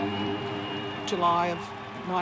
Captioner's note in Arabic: موسيقى روك هادئة; هتاف الجمهور